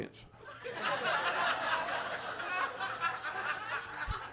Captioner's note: audience laughs